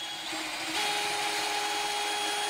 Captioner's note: whirring